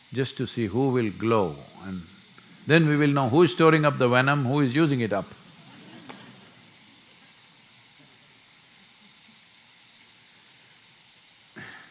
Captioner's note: laughter